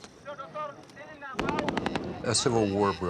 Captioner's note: speaking in foreign language; gunshots booming